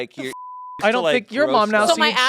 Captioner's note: beep